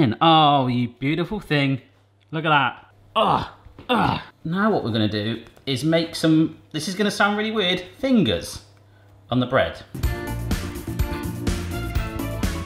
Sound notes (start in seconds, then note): 3.8 grunts; 10.0 upbeat music